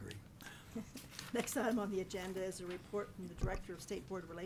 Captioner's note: chuckles